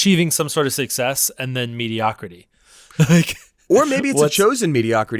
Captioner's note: laughs